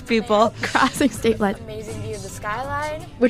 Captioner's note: laughs